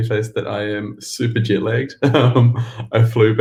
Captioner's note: laughs